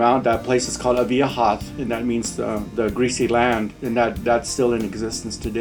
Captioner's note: non-english